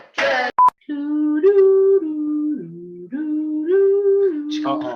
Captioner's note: man mouth beatboxing